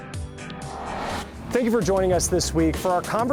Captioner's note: upbeat music; graphic whirring